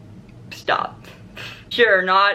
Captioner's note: laughs